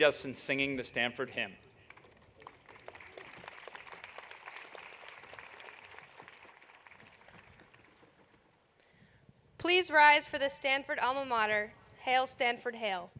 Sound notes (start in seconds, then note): 1.8 applause